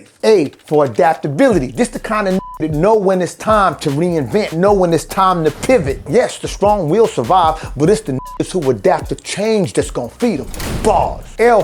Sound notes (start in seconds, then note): 1.0 keyboard clacking; 1.6 beep; 7.8 beep